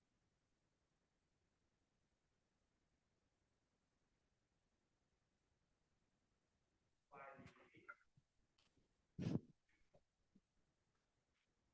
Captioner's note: no audio